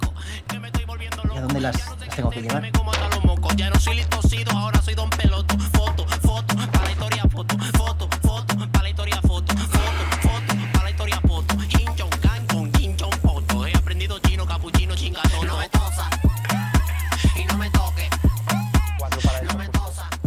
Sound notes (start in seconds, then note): 11.7 imitating chinese